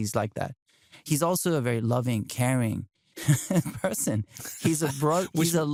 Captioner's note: laughs